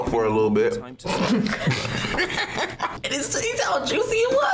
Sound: both laugh

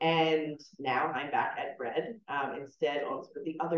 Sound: none

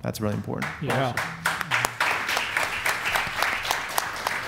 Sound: audience applauds

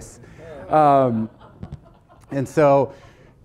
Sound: audience laughing

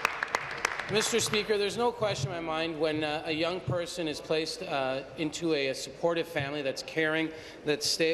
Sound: applause

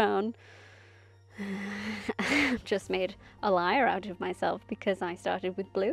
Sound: sighs

